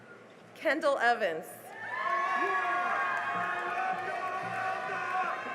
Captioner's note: cheering and applause